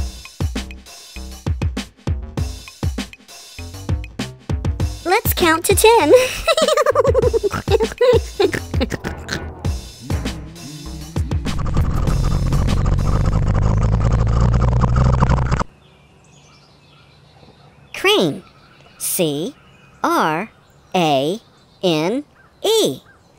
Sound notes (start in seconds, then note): 11.5 crane motor; 15.9 birds chirping